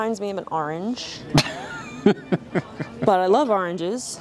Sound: laughing

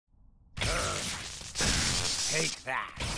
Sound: groans; electricity crackling

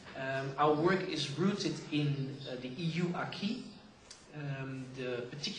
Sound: non-english

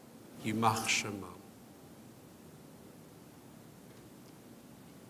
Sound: speaks in foreign language

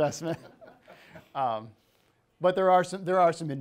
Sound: people laughing

